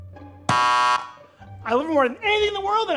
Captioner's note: shop attendant pressing buzzer